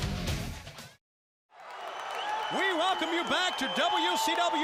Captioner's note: crowd cheering